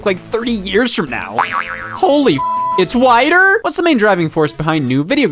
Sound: beep

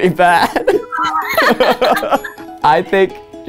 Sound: laughing

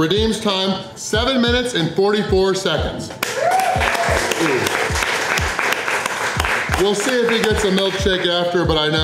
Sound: crowd cheering

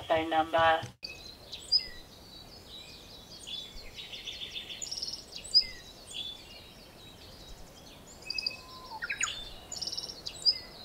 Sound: birds chirping

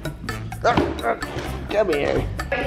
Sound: growls playfully

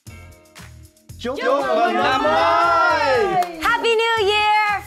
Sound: all speaking foreign language

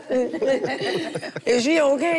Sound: group laughs

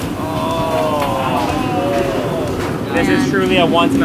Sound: all exclaiming

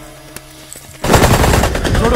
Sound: gun shots

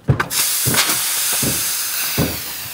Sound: hissing

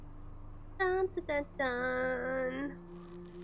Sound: humming

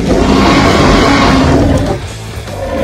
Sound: growling loudly

